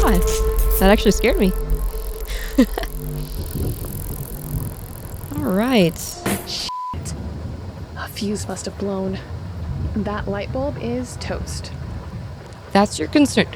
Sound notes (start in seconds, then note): 5.6 light bulb explodes